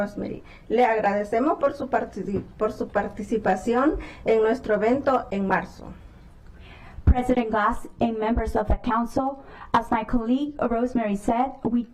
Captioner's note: speaking spanish